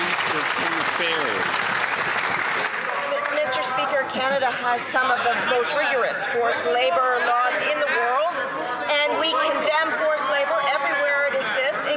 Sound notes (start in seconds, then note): 3.1 some Applause